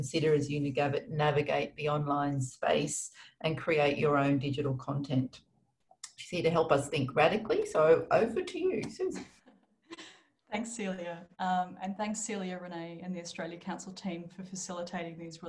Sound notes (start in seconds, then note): 9.2 laughs